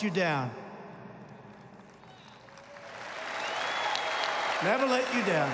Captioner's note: applause